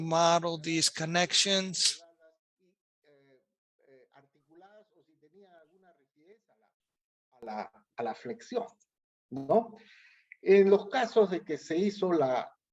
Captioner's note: speaking spanish